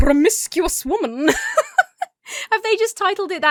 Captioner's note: laughs